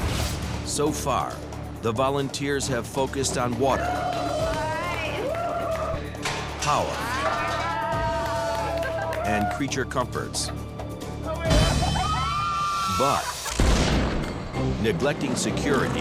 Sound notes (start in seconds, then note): 6.8 cheering